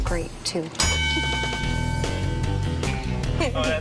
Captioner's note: bell dinging; upbeat music